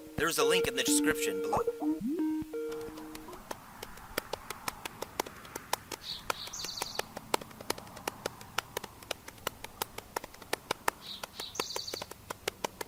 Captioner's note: pocket drumming, bird sounds